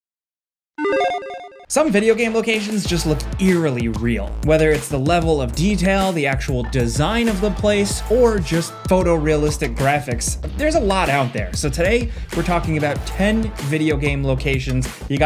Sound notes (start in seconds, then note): 0.8 logo blipping